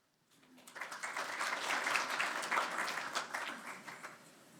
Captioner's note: audience applauding